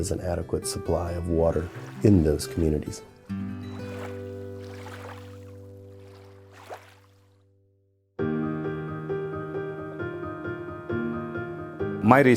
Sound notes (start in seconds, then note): 5.6 water splashing